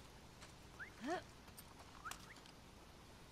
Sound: strange whistles

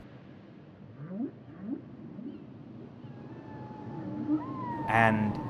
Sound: whale song

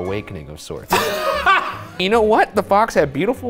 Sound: group laughs

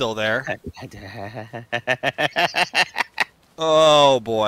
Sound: laughter

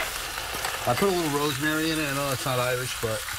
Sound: sizzling

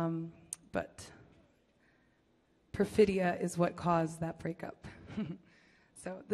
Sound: laughs

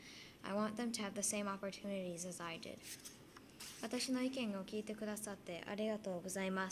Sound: Speaking Japanese

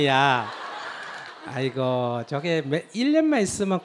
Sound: audience Laughter

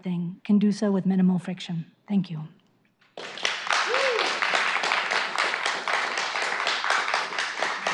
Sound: applause

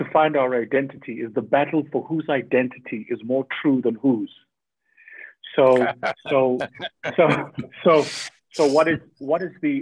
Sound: Sadhguru laughs

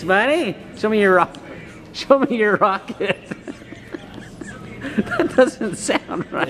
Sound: laughs

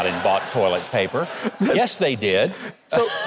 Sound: audience laughing

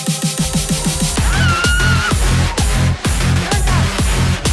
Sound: dubstep music; screams

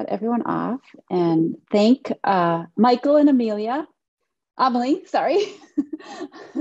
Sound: laughing

